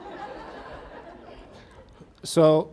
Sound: audience laughs

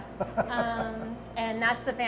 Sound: laughing

